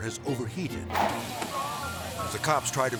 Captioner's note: car sizzling; air swoosh